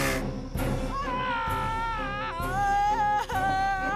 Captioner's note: screaming